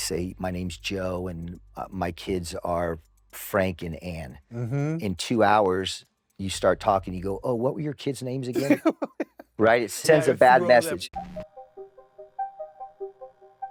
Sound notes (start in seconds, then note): 8.5 laughs